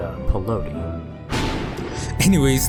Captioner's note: thunder strikes